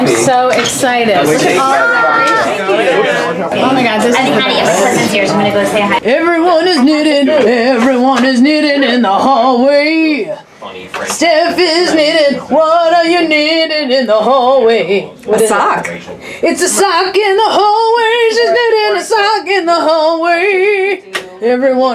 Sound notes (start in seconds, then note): 3.2 party chatter